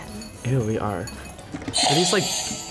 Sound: buzzer rings

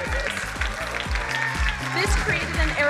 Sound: crowd cheering and applauding

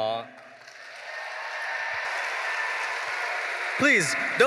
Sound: audience cheering

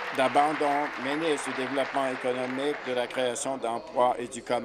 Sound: applause

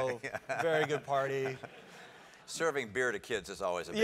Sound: laugh

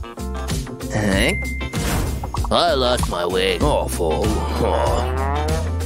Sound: groans; making angry sounds

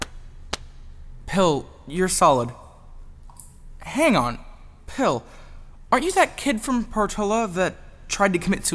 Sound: gentle slapping sound

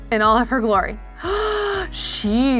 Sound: gasps

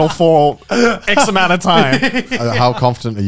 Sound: chuckling

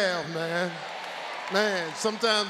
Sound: audience cheers

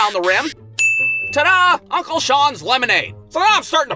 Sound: dink!

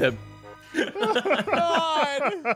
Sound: laughs

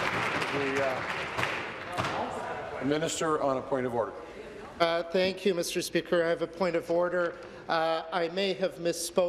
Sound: applause

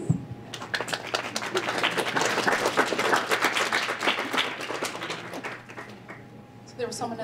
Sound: applause

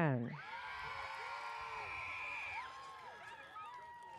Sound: audience cheers

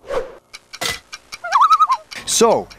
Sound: loon call

